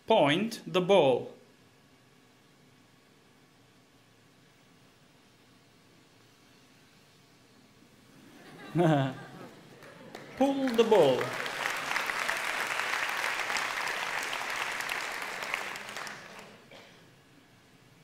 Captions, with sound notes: Point the ball. (Laughter) (Applause) Pull the ball.